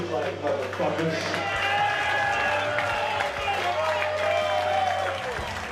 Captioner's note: aplausos, aplausos